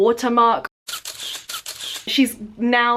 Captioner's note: camera shutters